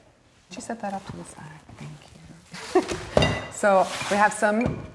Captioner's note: laughs